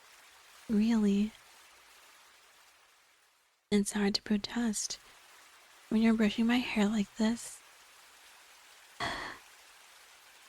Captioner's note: sighing